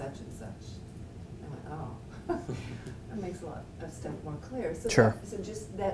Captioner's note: laugh